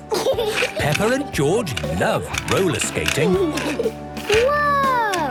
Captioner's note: snorting and giggling; laughter